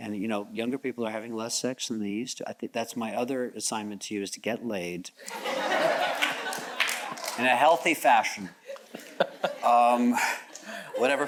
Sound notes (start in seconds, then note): 5.3 audience chuckles; 8.7 chuckles